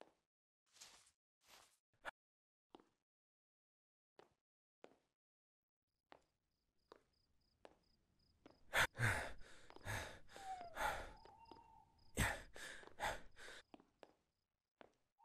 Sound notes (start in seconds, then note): none